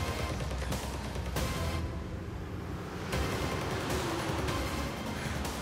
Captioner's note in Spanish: ruido de un vehículo